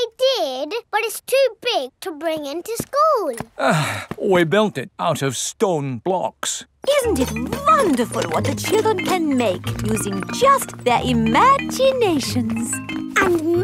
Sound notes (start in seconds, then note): 3.5 sighs